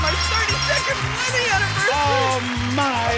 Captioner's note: audience cheers and applauds